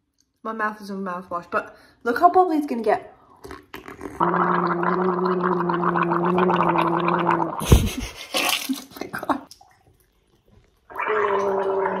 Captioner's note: gargling